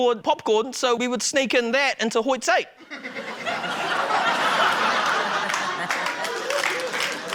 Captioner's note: laughter, applause